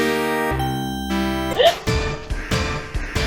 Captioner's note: audible gasp